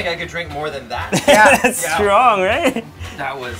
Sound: laughs

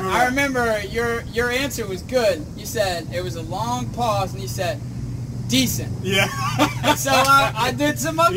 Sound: laughing

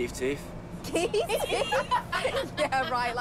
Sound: laughing

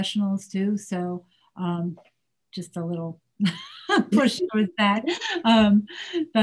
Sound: laughs

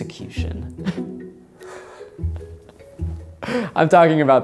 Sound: laughing

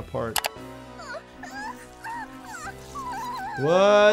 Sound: mouse clicking; Sniffles squealing

